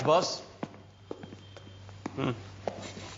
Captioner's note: footsteps echo; murmurs